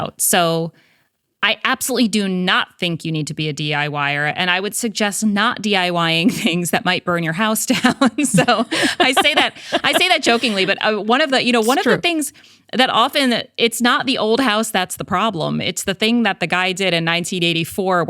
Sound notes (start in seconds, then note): 8.0 laughing; 8.0 laughs